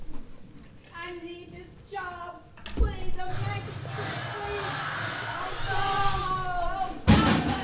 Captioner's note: backstage noise